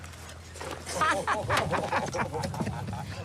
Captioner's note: unit laughing